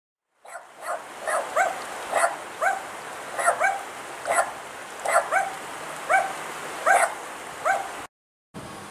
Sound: barking dogs

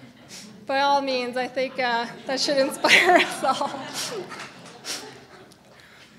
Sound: laughs

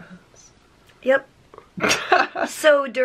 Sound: laughing

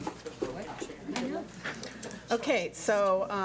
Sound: speaking faintly

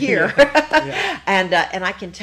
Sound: both laugh

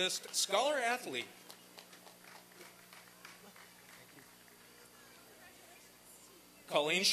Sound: applause and cheering

